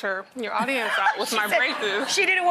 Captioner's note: laughs